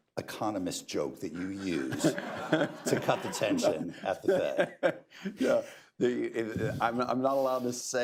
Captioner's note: laughter; laughs